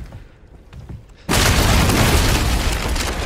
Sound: bridge collapses

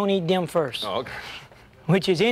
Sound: laughs

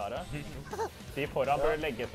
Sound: laughter

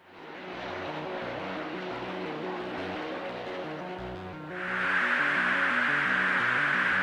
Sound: craft whirring; suspenseful music

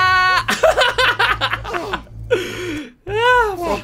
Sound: laugh

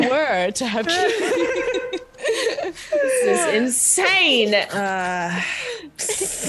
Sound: laugh

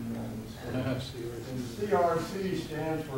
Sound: audience giggling

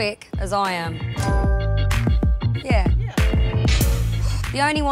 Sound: bell chimes

